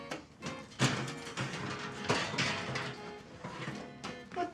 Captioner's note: quirky upbeat music; oven rack clatters